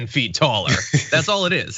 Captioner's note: laugh